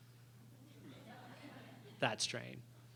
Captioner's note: laughter